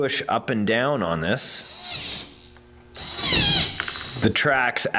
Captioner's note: mechanical whirring